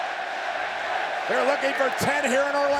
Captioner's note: crowd cheers